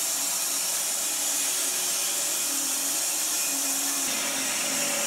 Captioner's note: saw whirring